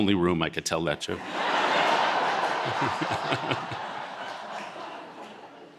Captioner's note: audience laughing